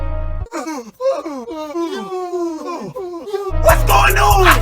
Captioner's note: yaawwWnNnnSSss